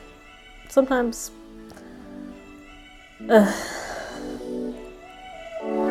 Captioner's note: long sigh